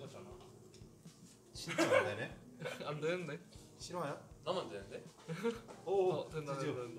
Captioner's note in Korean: 웃음